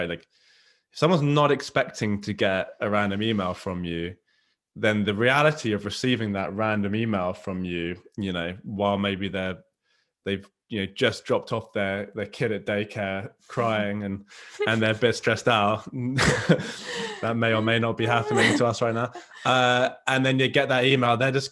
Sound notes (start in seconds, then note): 16.0 both chuckling; 19.4 chuckles